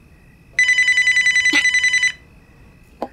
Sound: mobile ringing

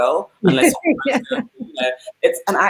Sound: laughs

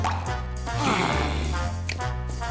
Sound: all growl; all snapping fingers

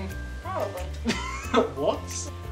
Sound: laughs

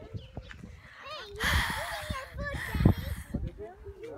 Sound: freaking out noises

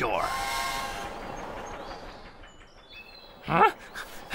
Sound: train Whistles

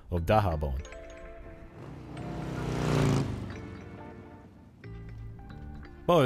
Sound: chil electronic lowfi beat; cars, sounds of townlife

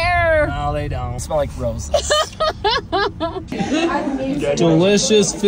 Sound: laughs

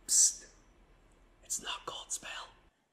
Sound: whispers

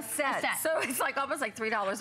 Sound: laughter

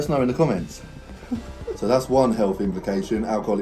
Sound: both laughing

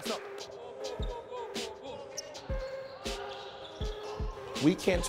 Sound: overlapping chattering

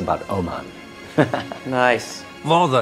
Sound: laughs

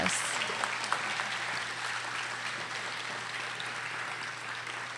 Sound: audience applauding

